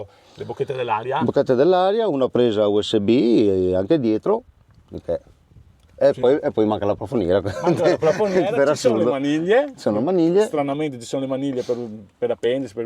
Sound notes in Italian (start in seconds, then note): 7.4 risate